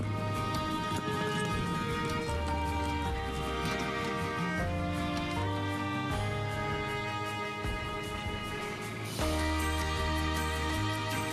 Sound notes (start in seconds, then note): 3.0 suitcase wheels rolling